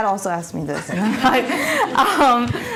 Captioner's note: laughing